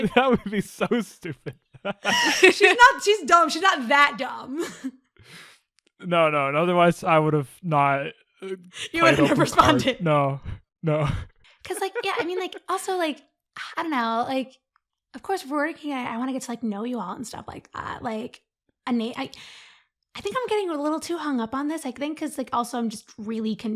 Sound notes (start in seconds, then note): 1.7 laughter; 1.8 laughing; 5.3 laughs; 8.7 laughing; 11.6 laughs